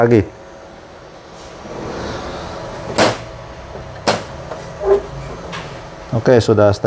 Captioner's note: printer machine noise; printer cover noise